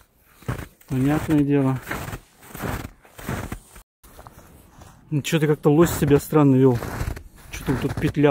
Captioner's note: snow crunching